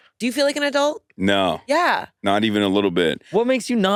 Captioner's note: none